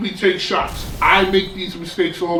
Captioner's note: crashing noise